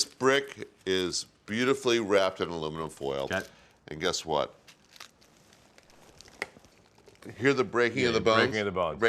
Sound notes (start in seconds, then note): 6.4 bones cracking